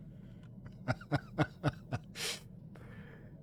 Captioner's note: laughs